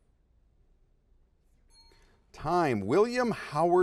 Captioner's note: dings